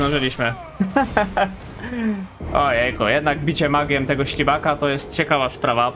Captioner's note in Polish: śmiech